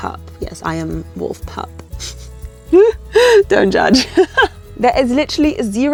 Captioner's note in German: lacht